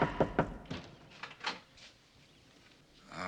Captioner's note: knocking; door opens